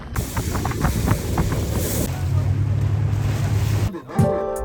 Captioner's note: laughs